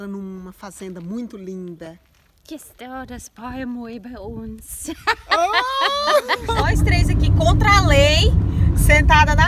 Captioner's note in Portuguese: risos